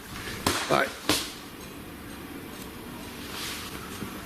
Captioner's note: loud slapping